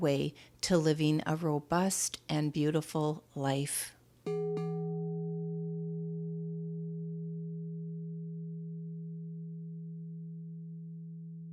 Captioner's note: quartz crystal tone